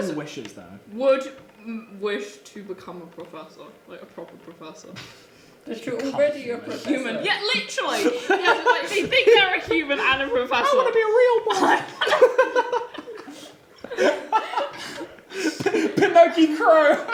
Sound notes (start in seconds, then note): 12.2 laughing